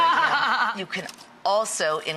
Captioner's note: laughs